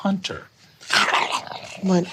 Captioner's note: growling